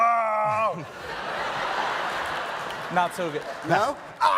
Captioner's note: moaning like a dying goat